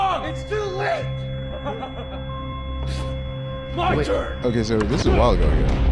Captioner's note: laughs